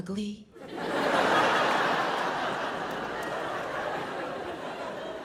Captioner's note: audience laughs